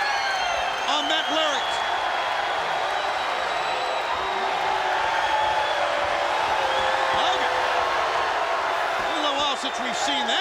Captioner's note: applause